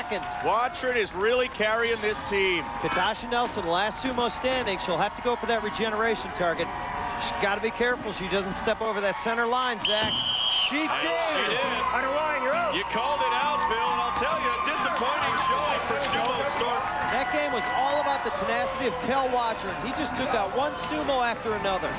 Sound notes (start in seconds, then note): 9.8 whistle blows